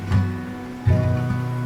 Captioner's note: gentle Guitar; ocean swell